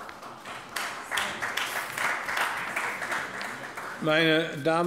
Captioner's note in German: Beifall bei der SPD und der FDP